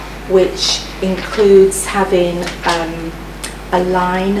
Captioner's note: none